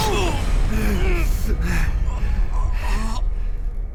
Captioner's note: both grumbling and gasping